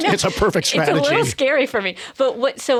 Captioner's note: laughing